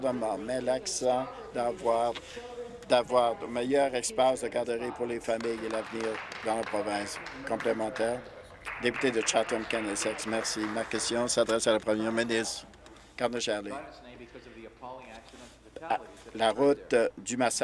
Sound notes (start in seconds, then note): 7.9 applause